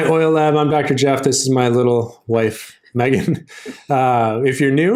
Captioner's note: chuckles